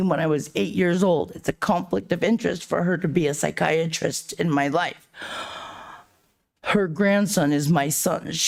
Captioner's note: sighs and gasps